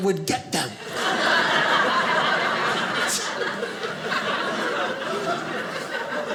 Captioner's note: audience laughing